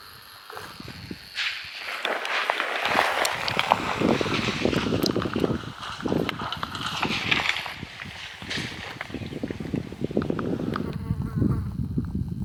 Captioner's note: branches Breaking